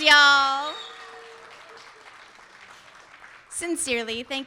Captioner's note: audience cheering; audience applauding